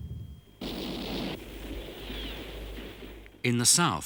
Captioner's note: guns firing